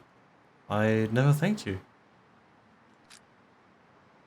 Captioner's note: none